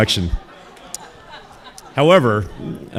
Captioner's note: audience laughing